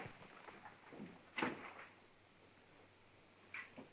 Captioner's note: wall clicks